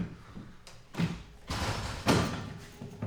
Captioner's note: distant door closing